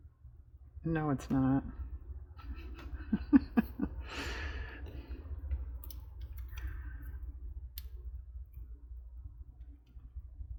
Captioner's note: laughs